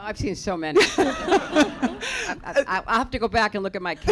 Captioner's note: laughter